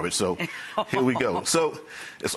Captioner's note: laughing